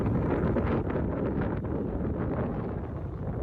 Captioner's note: loud wind noise